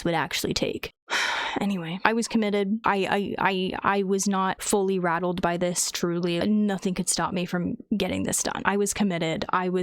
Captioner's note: sigh